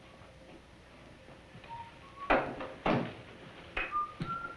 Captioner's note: whistling